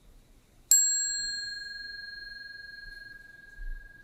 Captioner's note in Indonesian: Bunyi genta